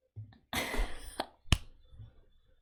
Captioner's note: laughs